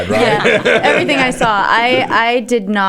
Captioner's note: laughs